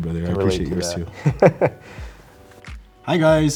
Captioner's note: men laughing